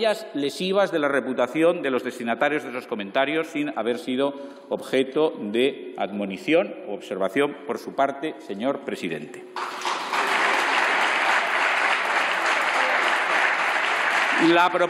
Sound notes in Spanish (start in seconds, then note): 9.5 Aplausos